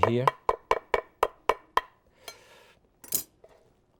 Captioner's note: knife tapping